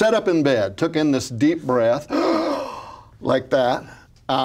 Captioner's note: gasps